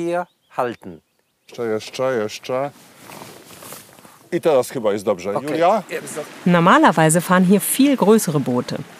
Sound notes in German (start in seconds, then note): 1.5 unterhalten sich auf Polnisch